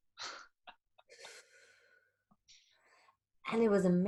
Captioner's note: chuckling